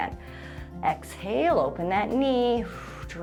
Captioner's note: exhales